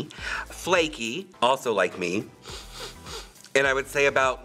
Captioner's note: sniffs